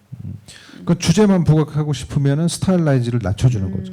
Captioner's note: speaking korean